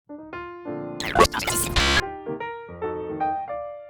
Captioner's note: radio static